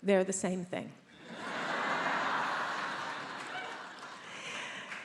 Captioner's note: attendees laughs